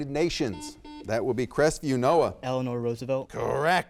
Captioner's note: buzzer beeps